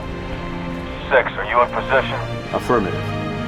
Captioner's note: radio